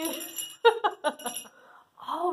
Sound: laughing

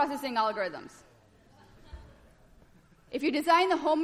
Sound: laughter

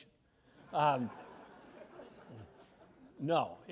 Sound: laughter

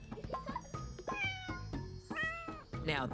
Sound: meowing

